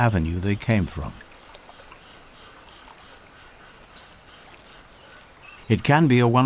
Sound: nature sounds

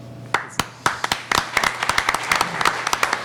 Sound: clapping

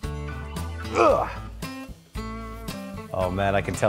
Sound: grunting

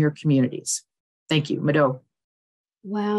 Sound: speaking foreign language

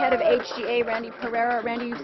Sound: applause

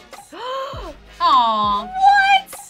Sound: gasps

